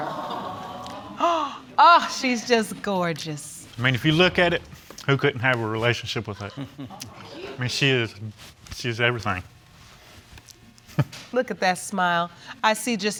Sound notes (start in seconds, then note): 0.0 audience coos; 1.2 gasps